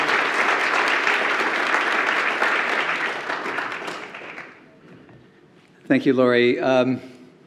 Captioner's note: applause